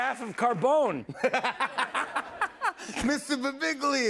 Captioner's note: laughter